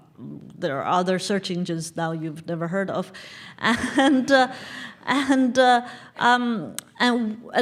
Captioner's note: laugh